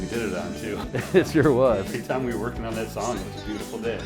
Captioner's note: chuckling